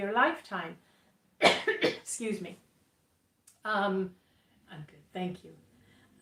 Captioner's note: coughing